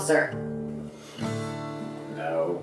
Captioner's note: exhales